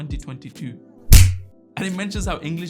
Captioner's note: hands smack